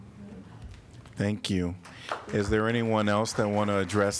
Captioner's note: applause